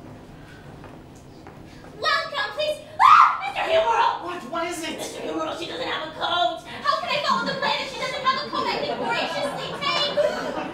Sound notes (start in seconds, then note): 2.9 Corrine Screams